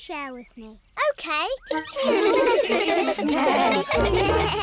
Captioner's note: giggling